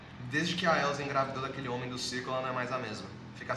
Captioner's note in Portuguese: none